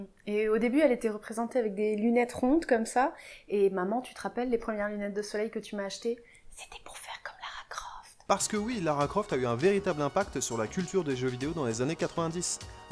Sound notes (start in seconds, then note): 6.2 whispers